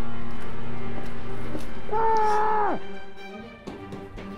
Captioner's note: scream from inside home